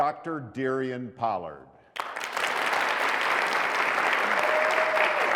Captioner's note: applause